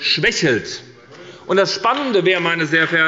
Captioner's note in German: Zustimmung bei Abgeordneten der SPD